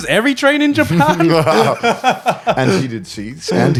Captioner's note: all laughing